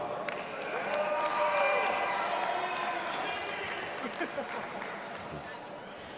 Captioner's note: audience applauding and cheering